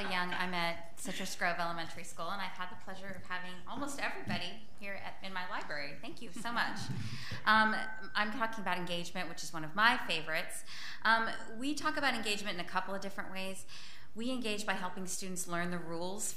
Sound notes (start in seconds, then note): 6.6 audience laughs